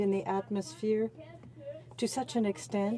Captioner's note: speaking French